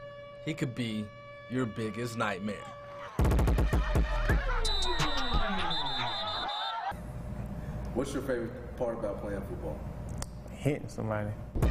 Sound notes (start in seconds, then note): 4.4 energetic electronic music; 7.2 referees blowing whistles